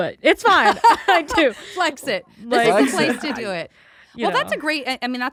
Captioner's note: laughs